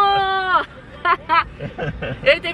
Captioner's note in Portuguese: risos